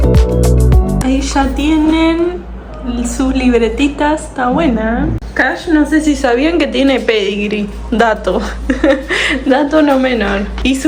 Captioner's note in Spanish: risas